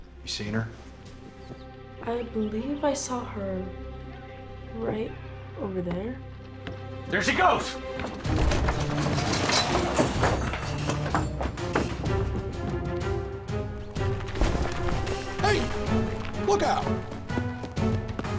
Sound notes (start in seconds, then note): 8.0 instruments clattering; 11.1 running footsteps